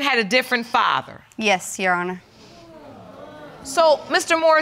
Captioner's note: audience murmuring